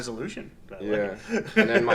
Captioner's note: laughs loudly